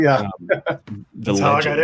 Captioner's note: laughs